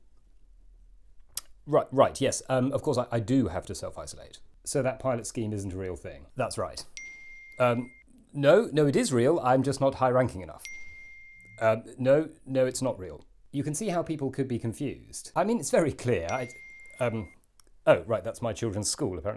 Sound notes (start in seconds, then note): 6.9 ping; 10.6 ping; 16.2 ping